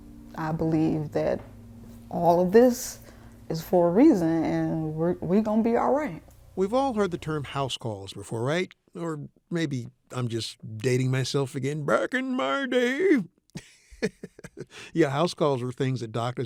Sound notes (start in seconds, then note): 13.5 laughs